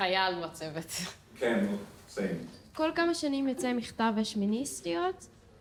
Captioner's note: speaking foreign language